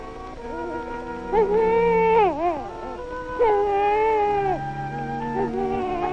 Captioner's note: baby fussing